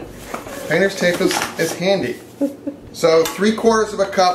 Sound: sister laughs

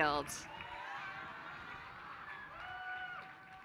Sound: applause

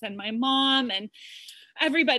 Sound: none

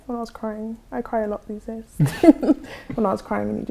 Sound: laughs

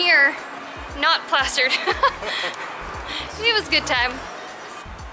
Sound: laughter

